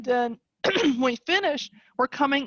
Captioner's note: clears voice